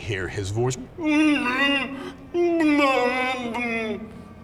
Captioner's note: moaning